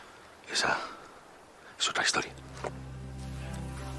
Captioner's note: whispering